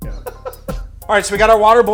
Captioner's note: rhythmic music; laughing